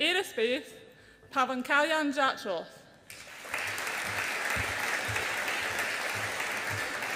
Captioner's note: audience applauds